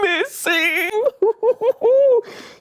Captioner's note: sinister laughter